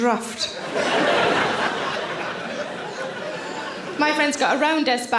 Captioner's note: audience laughing